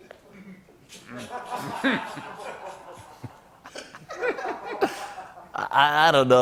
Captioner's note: laughter